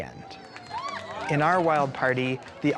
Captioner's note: cheering and clapping